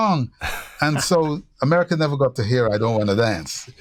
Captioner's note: laughter